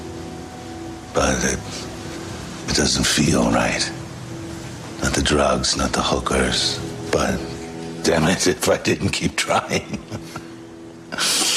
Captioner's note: rire